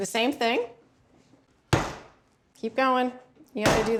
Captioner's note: pounds once